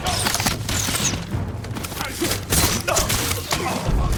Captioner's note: gunshots